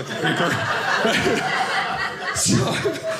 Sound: audience laughing

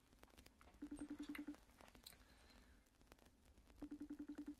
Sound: phone ringing

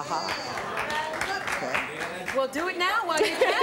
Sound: audience cheers

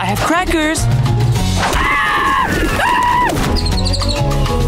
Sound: screaming

